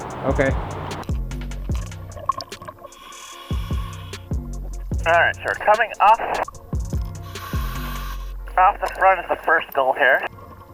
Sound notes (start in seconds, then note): 1.3 serene music; 2.9 apparatus inhales; 7.3 apparatus inhales